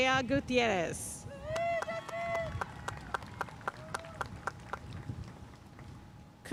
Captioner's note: audience cheering and applauding